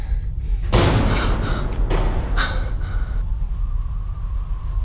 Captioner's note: loud thud